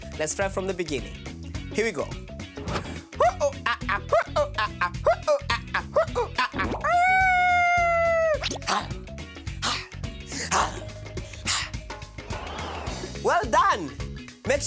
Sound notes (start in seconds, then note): 2.7 imitates monkey gibbering; 6.9 imitates elephant trumpeting; 9.1 imitates leopard roaring